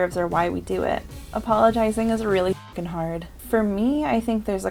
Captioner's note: honk